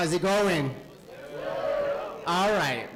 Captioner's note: cheering